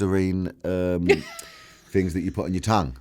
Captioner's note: laughs